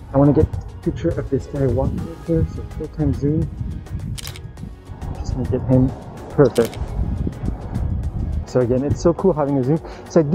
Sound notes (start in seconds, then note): 4.1 camera clicking